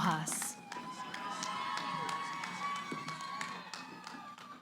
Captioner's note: cheering